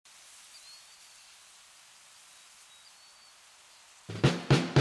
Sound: birds chirping

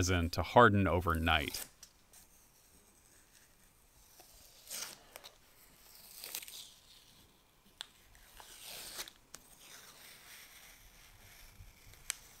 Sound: peeling tape sounds

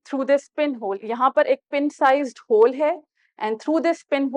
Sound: in Urdu

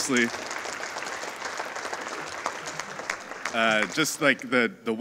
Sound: audience applauding

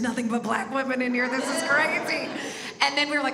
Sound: audience laughs

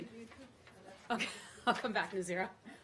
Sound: laughter

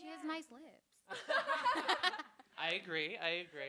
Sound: laughing

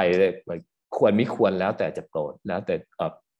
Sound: speaking foreign language

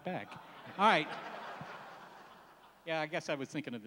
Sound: laughs

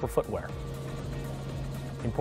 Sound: helicopter sounds

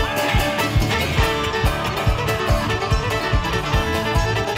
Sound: cheering

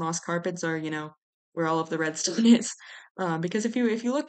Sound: laughs

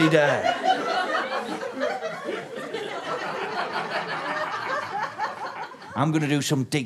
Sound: laughter continues

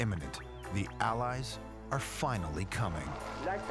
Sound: french dialogue

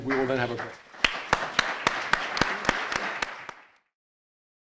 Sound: audience applauds

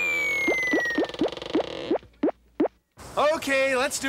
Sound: popping

